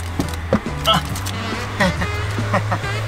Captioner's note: embarrassed laughter